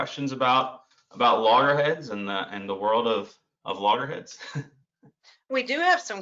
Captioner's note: laughs